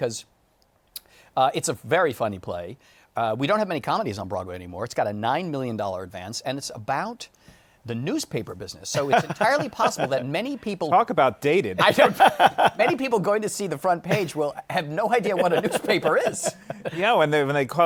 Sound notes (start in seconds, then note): 11.8 laughs